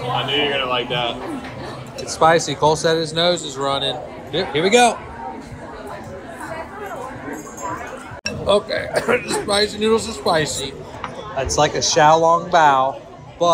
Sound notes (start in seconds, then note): 8.8 cough